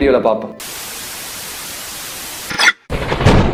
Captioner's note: signal scrambles; thunder rumbles